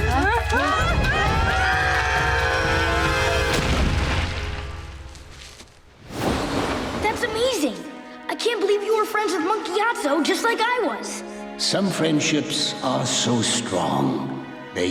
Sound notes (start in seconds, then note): 0.7 screaming; 2.5 thudding